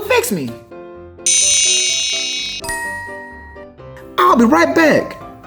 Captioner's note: magical ting; futuristic zapping